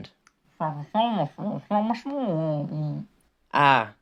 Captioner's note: Mailman mumbles like a Peanuts character